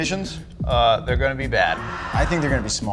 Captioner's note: crowd ahs